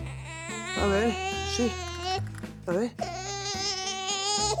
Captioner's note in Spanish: Llanto del bebé